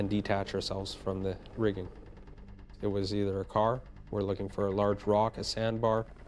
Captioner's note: voiceover